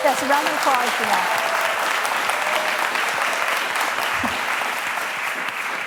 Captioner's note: applause